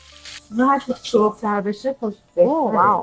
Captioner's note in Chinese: 波斯语